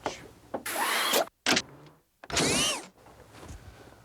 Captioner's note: whirring